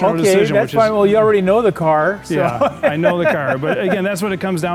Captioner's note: laughing